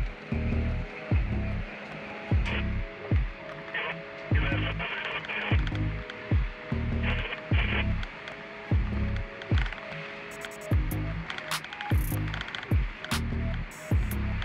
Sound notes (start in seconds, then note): 7.0 CB radio Crackles